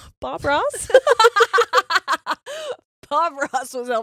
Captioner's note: laughing